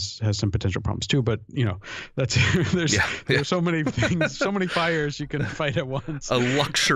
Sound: chuckle; laughter

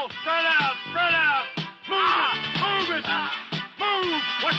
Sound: groaning

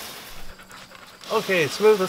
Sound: dog panting

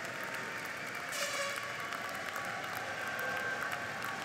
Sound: applause

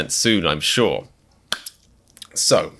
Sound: clap

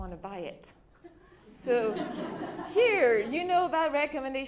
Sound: laughter

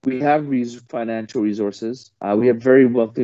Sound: speaking foreign language

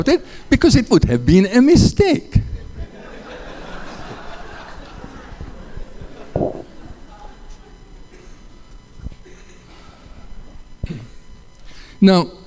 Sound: laughter

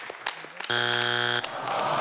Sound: buzzing; audience sighing

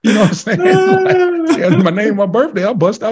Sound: all laughing

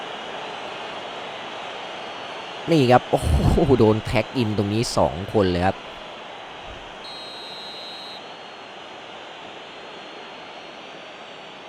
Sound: applause

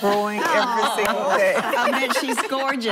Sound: laughing

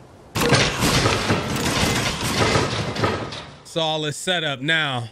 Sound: traps thudding

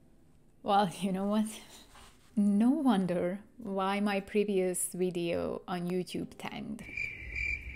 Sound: crickets

